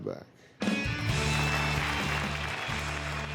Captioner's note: applause